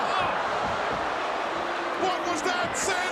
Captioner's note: crowd boos